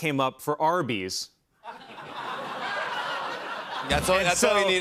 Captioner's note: laughter